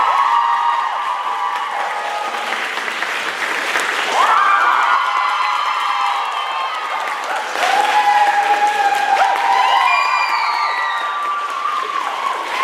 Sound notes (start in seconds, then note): 7.7 applause, cheers